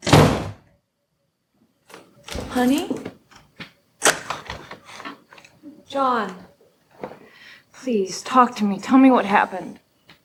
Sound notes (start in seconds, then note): 0.0 door slamming; 4.0 lock clicking